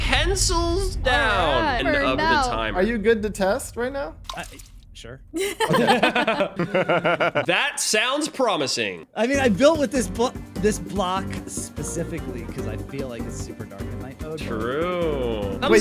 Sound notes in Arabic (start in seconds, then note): 0.1 موسيقى مكثفة; 5.4 تضحك; 14.5 موسيقى مكثفة